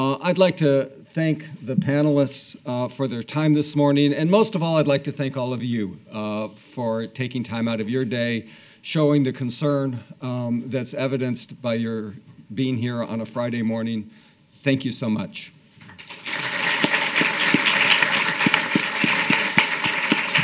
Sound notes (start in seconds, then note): 15.9 audience applauding